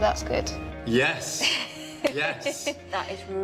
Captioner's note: laughter